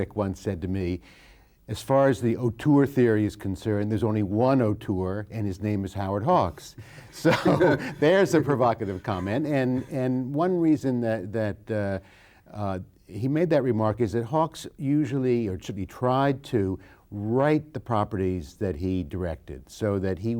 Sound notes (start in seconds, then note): 6.8 both laughing